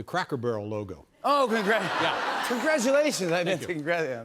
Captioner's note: laughter